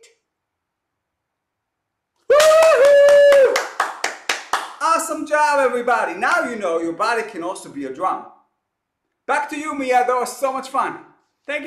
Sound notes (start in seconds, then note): 2.2 cheering